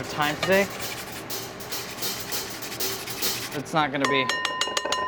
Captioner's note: ginger scrapes against grater